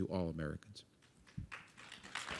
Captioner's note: applause